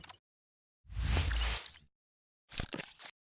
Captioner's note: logo wooshes